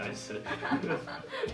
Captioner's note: laugh